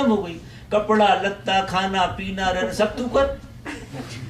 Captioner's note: audience laughs